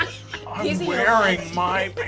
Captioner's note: laughter